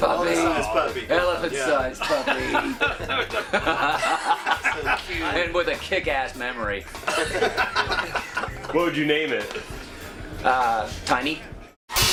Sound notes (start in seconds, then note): 1.9 laughs; 3.5 laughter; 7.0 laughter